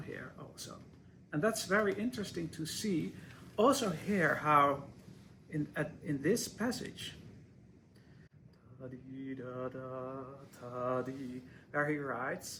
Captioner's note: hums